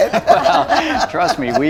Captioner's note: laughing